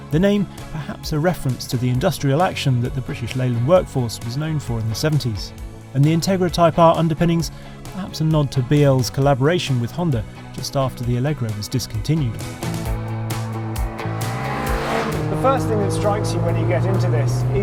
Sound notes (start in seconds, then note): 13.2 groovy rock music; 14.2 car vrooms